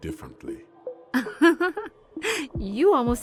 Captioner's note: Madame Butterfly laughs